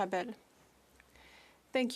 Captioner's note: speaking French